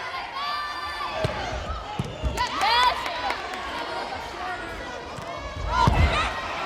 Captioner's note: players yelling